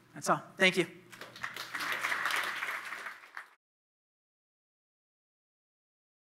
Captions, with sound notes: That's all, thank you. (audience clapping)